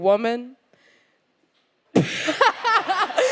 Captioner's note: silence; laughs